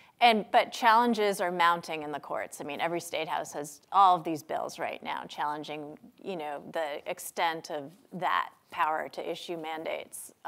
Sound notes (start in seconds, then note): none